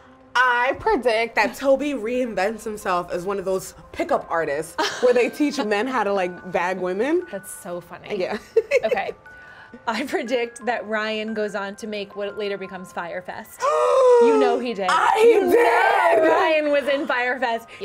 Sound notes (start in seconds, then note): 13.6 gasps